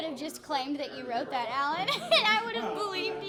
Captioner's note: laughing